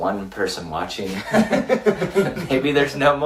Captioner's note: laughs